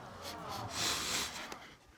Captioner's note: both sniffle